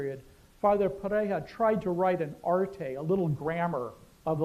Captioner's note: non-english